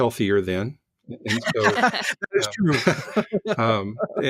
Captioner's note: laughing